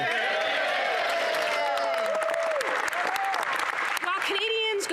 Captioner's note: some Applause; speaking French; some Applause